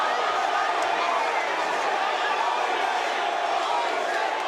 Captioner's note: crowd chants "Holy shit"